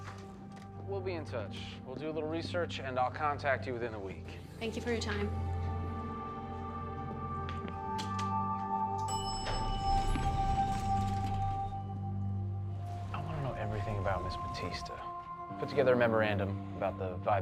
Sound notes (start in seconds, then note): 9.0 elevator pings